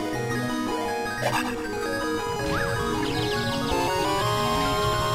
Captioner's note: oh god fairy noises